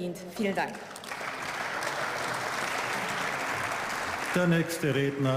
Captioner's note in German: Beifall